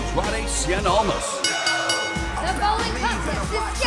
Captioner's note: bell ringing